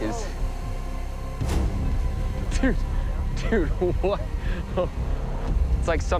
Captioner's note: laughs